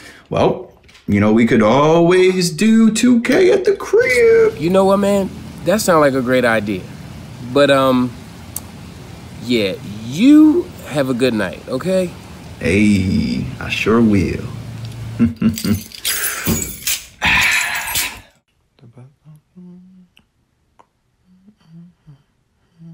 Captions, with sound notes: Well, you know, we could always do 2K at the crib. - You know what, man? That sounds like a great idea, but um, yeah, you have a good night, okay? - Aye, I sure will. (Aaron chuckles) (keys jangle) (Aaron sighs confidently) (Terrance softly humming)